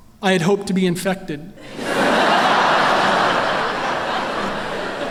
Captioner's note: laughter